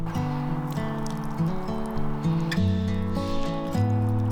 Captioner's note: mixture dripping